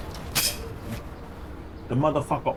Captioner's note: gun cocks